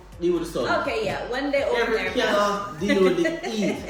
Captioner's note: laughs